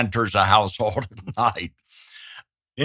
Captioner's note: laughs